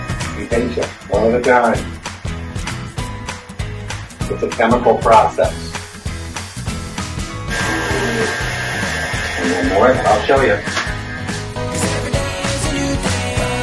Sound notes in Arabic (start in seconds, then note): 7.4 مزج بصوت عال